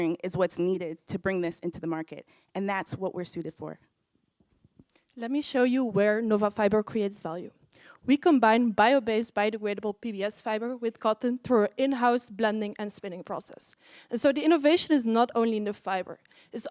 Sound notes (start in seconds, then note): none